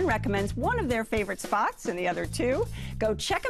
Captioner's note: none